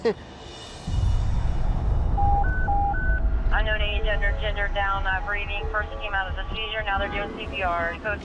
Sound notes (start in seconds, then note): 2.1 beeping